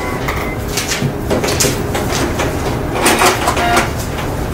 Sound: printer sounds

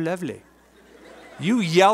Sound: laughter

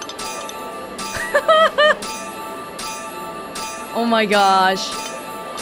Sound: chuckles

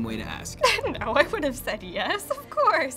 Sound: laughing

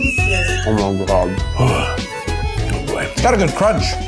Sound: groans

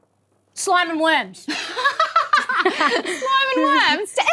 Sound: laughs

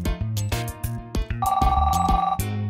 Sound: phone rings

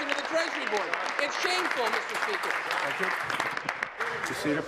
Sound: applause

